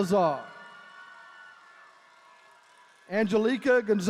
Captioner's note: attendees cheering